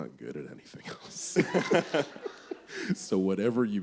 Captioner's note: laughter